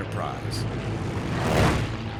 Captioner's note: planes whirring